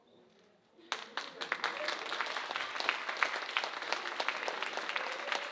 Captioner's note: audience applauding